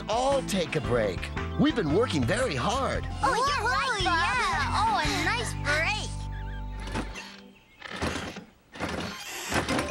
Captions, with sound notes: LET'S ALL TAKE A BREAK. WE'VE BEEN WORKING VERY HARD! ( Excited Chatter ) ( Creaking )